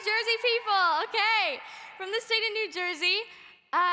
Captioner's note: audience cheering